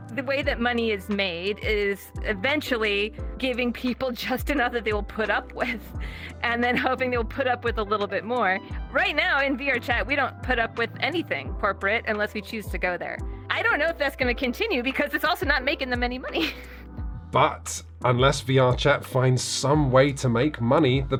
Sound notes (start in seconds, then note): 16.2 laughs